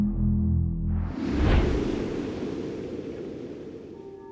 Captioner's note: whoosh